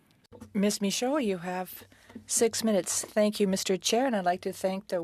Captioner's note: speaking French